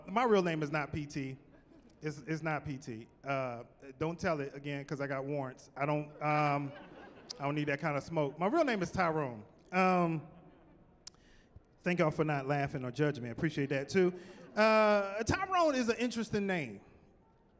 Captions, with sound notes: My real name is not PT. It's not PT. Don't tell it again 'cause I got warrants. [chuckling] I don't need that kind of smoke. My real name is Tyrone. Thank y'all for not laughing or judging me. I appreciate that too. Tyrone is an interesting name